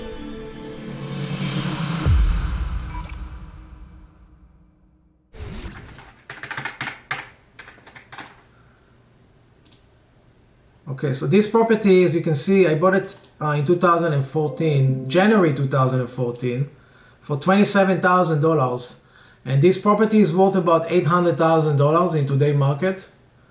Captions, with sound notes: (sentimental music) (keyboard clicking) Okay so this property, as you can see, I bought it in 2014. January 2014 for $27,000. And this property's worth about $800,000 in today market.